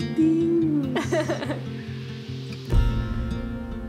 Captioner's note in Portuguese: risos